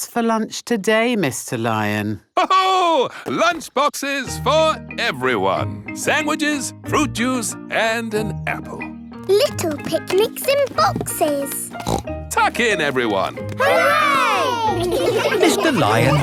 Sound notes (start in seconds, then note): 3.0 laughs; 11.6 snorts